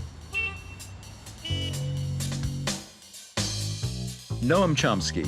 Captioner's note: horns honking; upbeat music